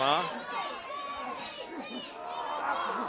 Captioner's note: crowd chatter